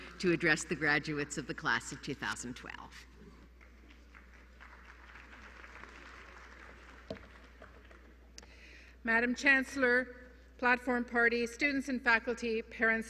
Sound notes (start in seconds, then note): 3.4 applause